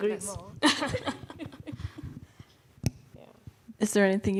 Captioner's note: panelists laughing